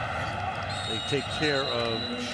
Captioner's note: whistle blows